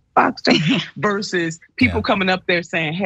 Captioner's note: laugh